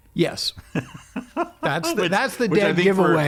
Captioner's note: laughing